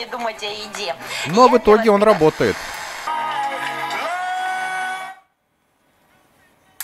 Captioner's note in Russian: звучат радиостанции